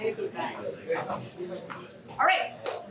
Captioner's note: indistinct chatter